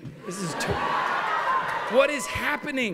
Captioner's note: cheers and applause